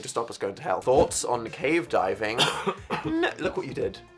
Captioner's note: Phil coughing